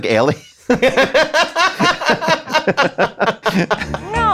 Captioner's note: laughing